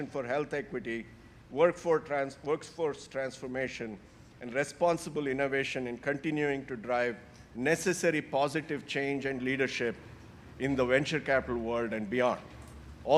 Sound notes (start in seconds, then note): none